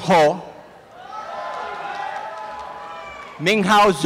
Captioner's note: applause and cheering